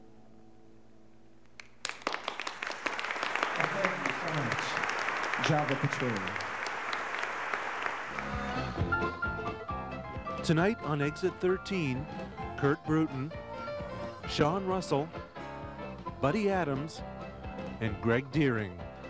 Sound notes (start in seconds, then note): 1.6 audience applauding; 8.8 bright piano music